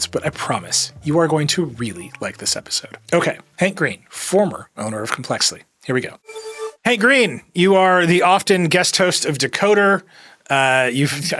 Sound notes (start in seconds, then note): 6.2 digital tone shimmers